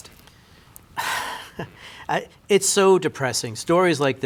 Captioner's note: sighs